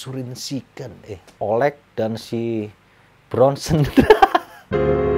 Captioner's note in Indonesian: laughing